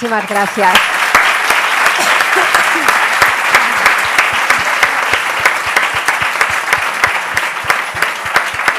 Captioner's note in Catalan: aplaudiments